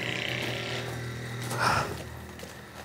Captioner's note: gasping